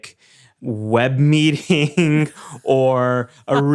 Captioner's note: chuckles